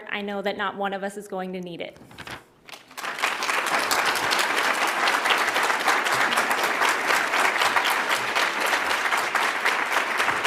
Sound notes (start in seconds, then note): 2.7 audience applauds